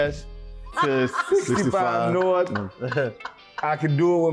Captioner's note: laughing